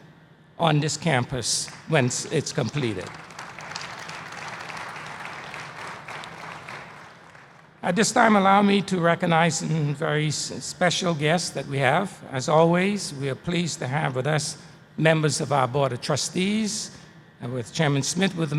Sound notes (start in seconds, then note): 6.4 applause